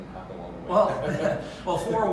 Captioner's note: laughs